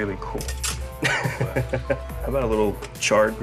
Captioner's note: chuckles